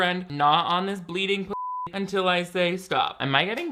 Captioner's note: beep